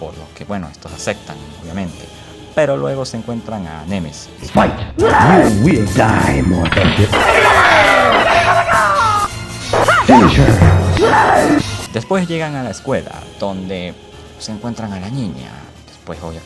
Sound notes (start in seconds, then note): 6.8 Mortal Kombat 2 sounds